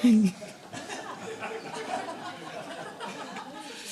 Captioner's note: laughter